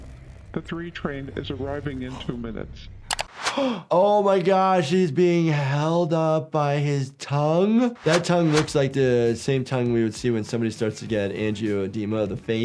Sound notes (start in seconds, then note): 3.5 gasps